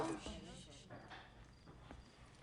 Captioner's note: people talking